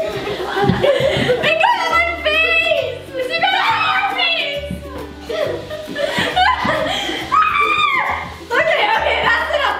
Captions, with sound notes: - I got it on my face. (playful yelling) (laughter)